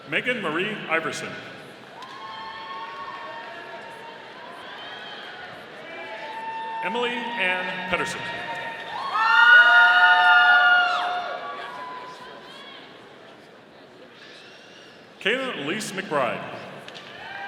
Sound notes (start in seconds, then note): 1.7 audience cheering; 9.0 audience cheering; 17.2 audience applauding